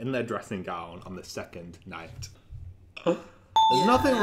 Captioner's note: beep